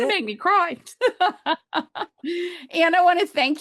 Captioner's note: laughs